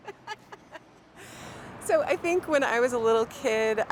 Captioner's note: aunt laughing